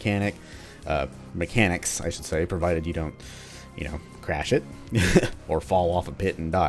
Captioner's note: chuckles